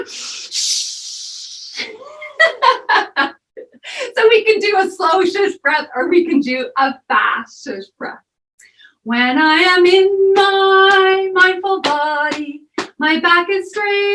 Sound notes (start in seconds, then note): 1.7 fast shushing; 3.3 laughter